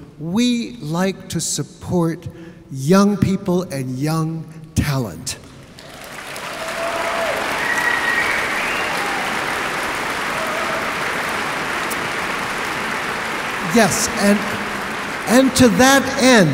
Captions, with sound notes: we like to support young people and young talent (audience applauding) Yes and to that end